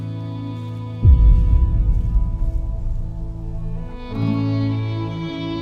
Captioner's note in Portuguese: impacto